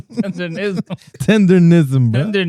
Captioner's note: laughing